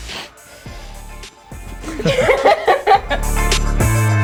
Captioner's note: laughing; upbeat pop music